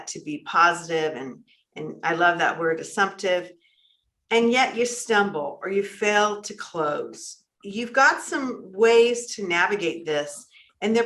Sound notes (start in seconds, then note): none